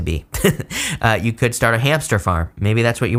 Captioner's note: chuckles